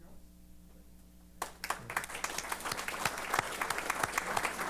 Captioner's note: applause